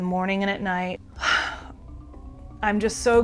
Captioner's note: sighs